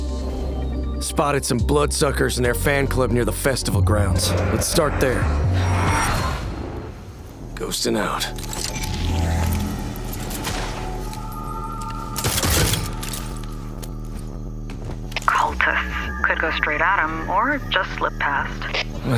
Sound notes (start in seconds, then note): 6.6 vampire roars; 11.5 ominous music playing